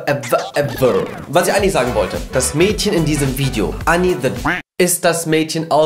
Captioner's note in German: quak